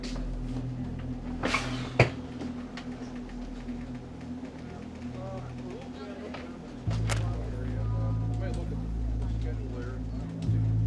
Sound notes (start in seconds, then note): 4.8 officers chattering